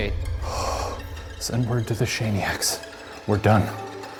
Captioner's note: gasps